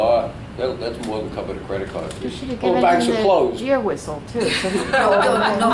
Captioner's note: all laugh